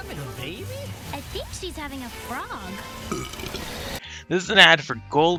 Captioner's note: burp